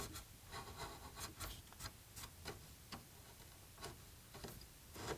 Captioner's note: slow scraping